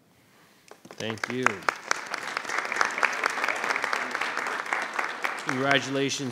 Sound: audience applauds

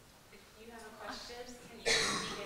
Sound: voiceover

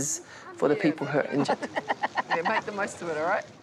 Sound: laughter

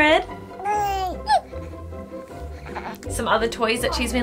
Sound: baby cooing

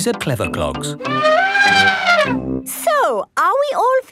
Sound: trumpeting

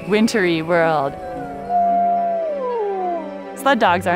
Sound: dog howls

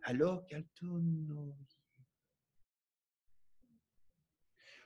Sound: speaking French

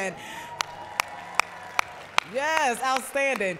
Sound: applause

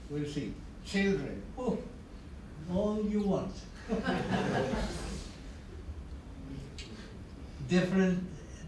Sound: laughter

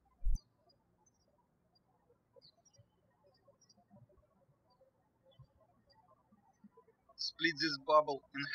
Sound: birds chirping

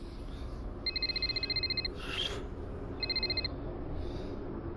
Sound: phone ringing

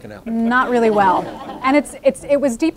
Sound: audience laughing

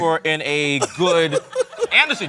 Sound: laughter

